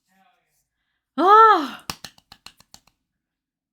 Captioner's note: clapping